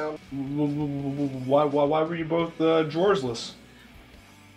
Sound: stammering

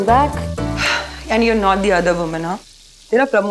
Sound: sighs

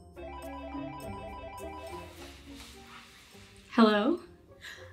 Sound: phone rings

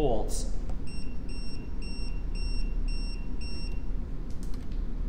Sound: meter beeping

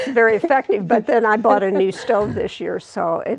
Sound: laughing

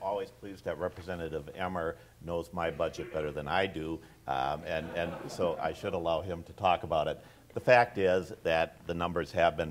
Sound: audience laughs

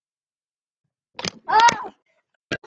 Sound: camamamamamamamera crash sound thingy

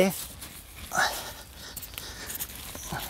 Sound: he groans softly

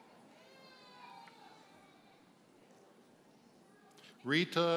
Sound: baby crying

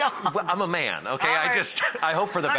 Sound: laughs

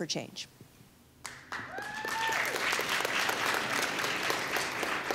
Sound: applause

